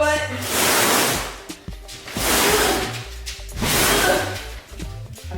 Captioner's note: hollow scrapping sound